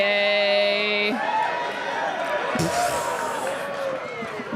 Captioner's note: audience cheering